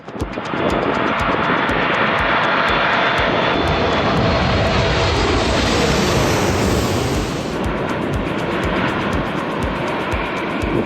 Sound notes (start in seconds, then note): 1.3 jet engines roar